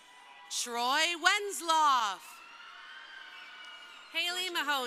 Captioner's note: crowd cheering